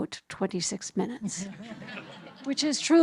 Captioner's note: audience laughing